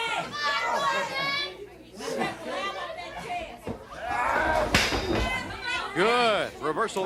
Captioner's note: crowd cheering